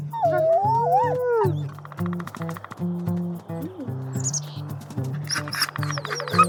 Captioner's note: playful Pups Sounds